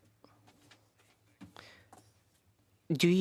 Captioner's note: speaking French